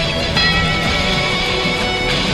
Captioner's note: train bell